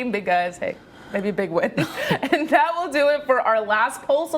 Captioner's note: laughter